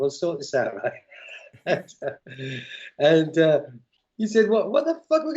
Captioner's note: laughter